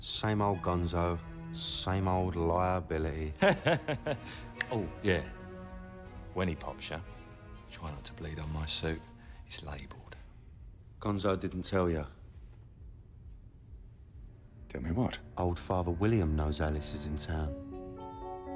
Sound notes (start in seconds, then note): 3.4 laughs